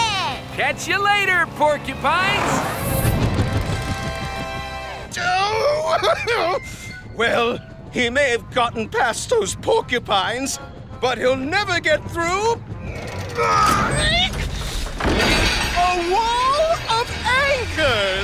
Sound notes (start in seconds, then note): 13.1 grunting